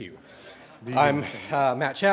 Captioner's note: audience laughing